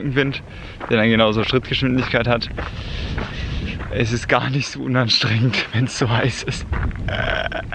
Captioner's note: gasp